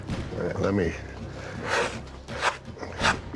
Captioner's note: rasping